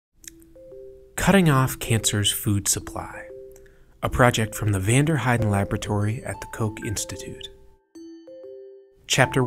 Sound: voiceover

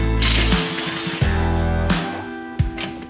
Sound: drilling; rock music

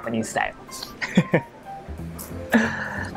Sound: chuckles

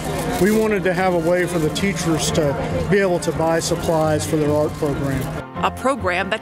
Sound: none

